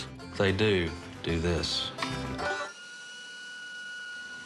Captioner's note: whirring